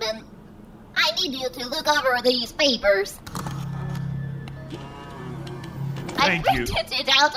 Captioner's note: sound of papers printing out